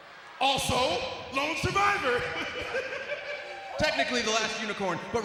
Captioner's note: laughs